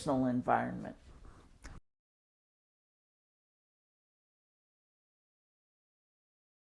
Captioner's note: silence